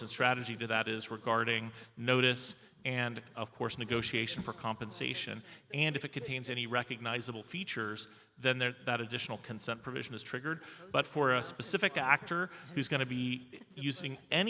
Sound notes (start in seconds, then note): none